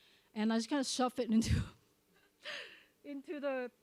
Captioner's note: chuckles